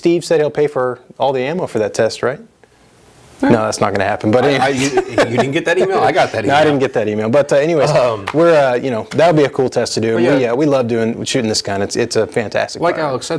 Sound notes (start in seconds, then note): 4.4 laughs